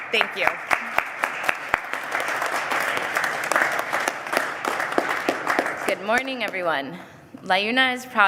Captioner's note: applause